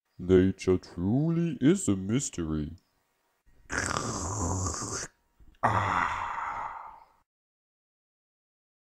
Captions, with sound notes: Nature truly is a mystery. *Slurps* Ahhh!